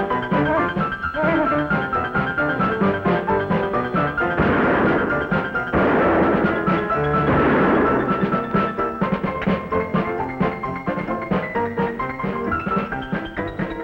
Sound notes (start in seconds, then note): 4.3 gun fires; 8.3 cheerful pianola music